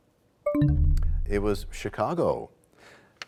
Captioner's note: bell chimes, time expires